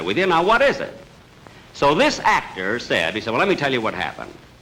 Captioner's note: none